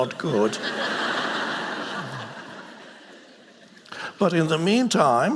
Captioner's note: audience laughing